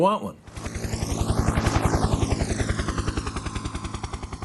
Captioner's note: helicopter flying